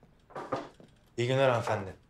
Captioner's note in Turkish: Kapı Çalıyor